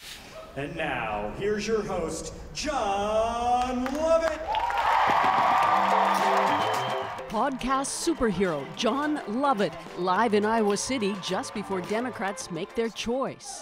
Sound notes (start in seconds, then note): 6.3 applause